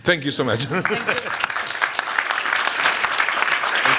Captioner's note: applause